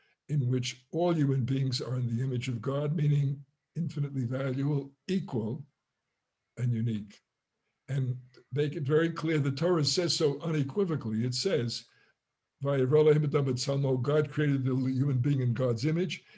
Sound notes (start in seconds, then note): 12.9 Hebrew